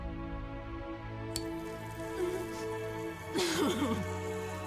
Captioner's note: lighter strikes